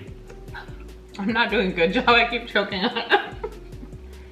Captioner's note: laughs